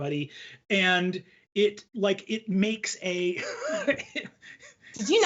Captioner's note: laughs